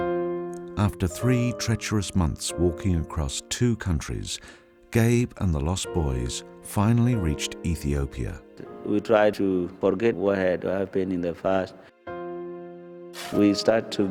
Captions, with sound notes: (solemn piano music) - [Voiceover] After three treacherous months walking across two countries, Gabe and the Lost Boys finally reached Ethiopia.